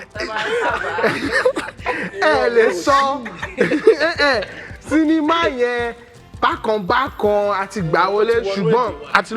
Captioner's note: laughs